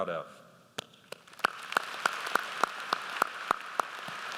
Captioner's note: audience applauds